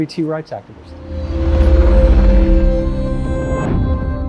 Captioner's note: synthetic echo